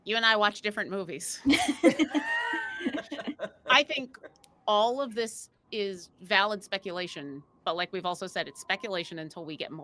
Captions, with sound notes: - You and I watch different movies. (all laughing) I think all of this is valid speculation, but like we've also said, it's speculation until we get